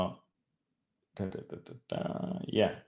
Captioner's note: murmurs